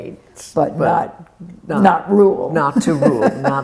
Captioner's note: laughs